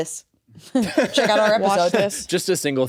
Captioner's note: laughs